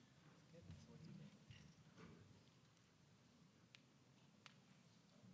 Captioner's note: announcer speaks faintly